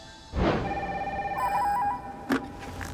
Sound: phone ringing

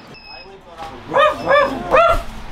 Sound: woof woof

